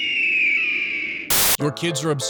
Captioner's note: screaming